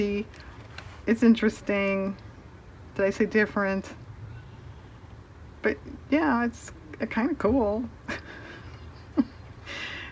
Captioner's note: laughs